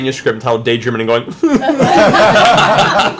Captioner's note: fake crying; laughter